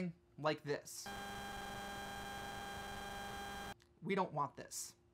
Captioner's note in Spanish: sonido de zumbido